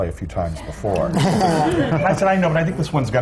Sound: laughter

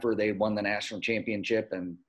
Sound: none

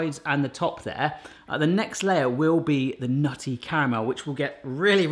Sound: none

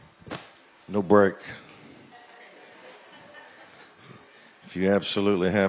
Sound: laughter

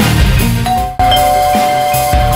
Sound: door bell rings

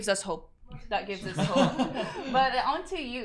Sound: all chuckling

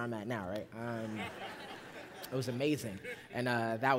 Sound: laughter

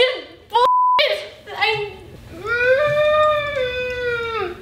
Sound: growling

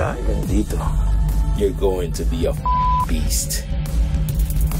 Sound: beep

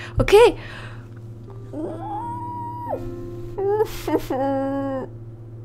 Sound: muffled screaming

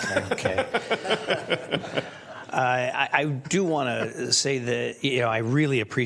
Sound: laughter

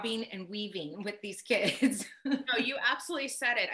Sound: laughs

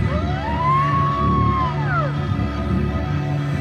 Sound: shouting

